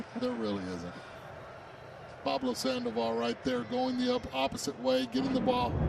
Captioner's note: laughter